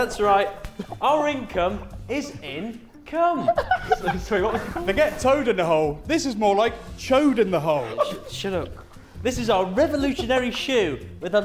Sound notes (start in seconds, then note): 3.4 Sidemen laughing